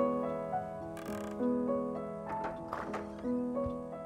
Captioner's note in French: ouverture d'une porte